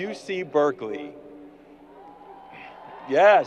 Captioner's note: crowd applause